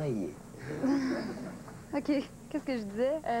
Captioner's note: Rires